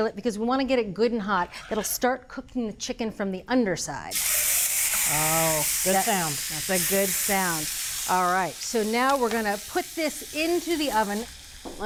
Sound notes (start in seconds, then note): 4.2 pan sizzling